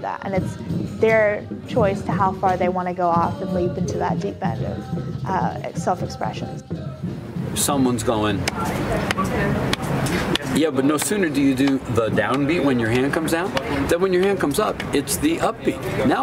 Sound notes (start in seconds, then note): 9.6 slaps knee rhythmically